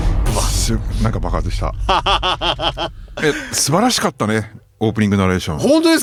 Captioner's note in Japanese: 笑い